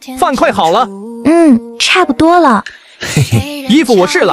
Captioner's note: giggles